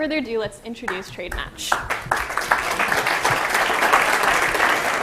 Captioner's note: applause